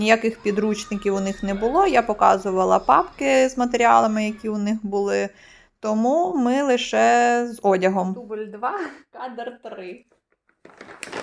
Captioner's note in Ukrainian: оплески